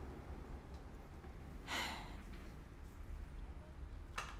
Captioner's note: sighing